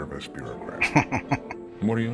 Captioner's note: chuckling